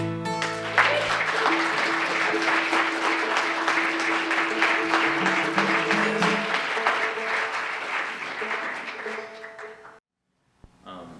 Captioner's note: applause